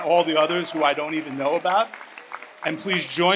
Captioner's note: audience applauds